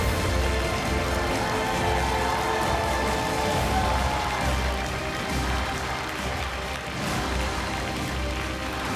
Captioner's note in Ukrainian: оплески